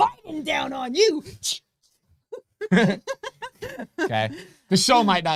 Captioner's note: both laughing